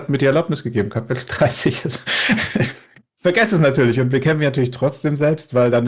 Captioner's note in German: gelächter